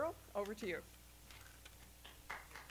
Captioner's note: applause